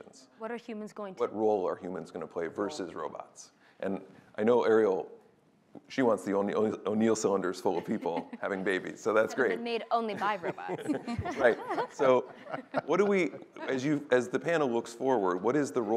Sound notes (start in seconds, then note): 10.0 laughter